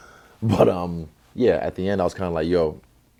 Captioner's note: chuckle